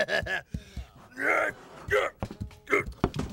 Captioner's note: laughing goofily; groaning